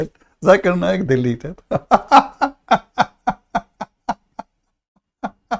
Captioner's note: Ketawa